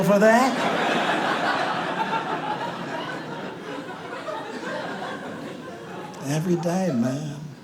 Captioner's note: audience laughs; audience laughs